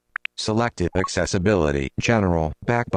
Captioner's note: electronic Voice